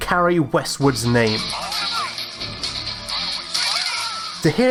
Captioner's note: game audio plays